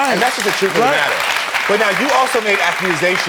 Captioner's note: audience applauds